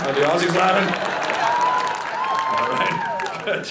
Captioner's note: audience laughing